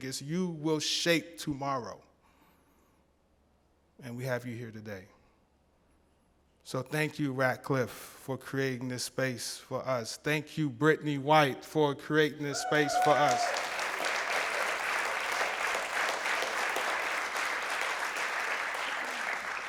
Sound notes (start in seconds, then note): 12.5 applause